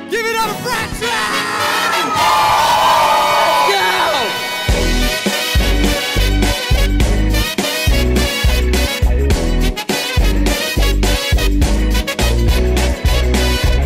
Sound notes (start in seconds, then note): 2.4 audience cheers; 4.7 celebratory music